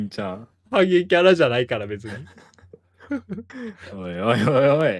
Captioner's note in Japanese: 笑い